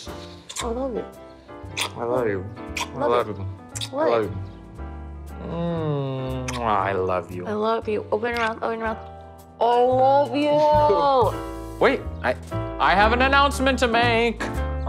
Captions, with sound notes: I love you. - I love you. (Tyler moans) I love you. - I love you. Open your mouth, open your mouth. I love you! (Tyler chuckles) - Wait, I... I have an announcement to make!